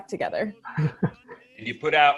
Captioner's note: chuckles